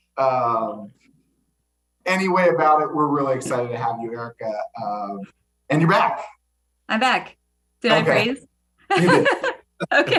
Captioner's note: laughter